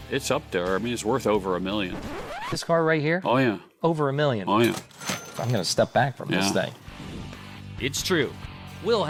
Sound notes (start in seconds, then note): 2.7 record stopping sound effect; 4.6 money register sound effect